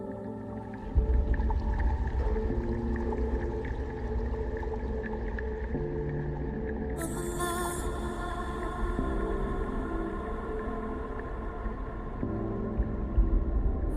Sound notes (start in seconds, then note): 1.0 bright ethereal music; 1.0 water bubbling